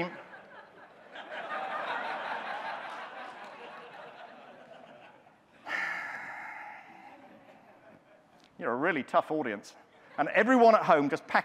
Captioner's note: audience laughing